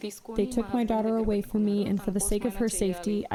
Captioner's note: through translator